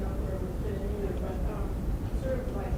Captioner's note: voiceover